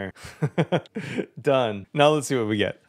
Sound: laughs

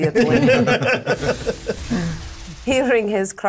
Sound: laughing

